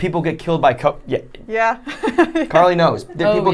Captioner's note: laughing